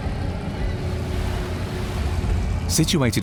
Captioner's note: engines roaring